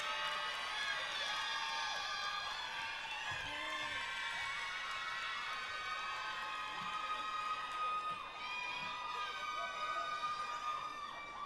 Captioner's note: applause